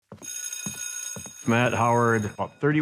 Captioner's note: shoes clacking; bell ringing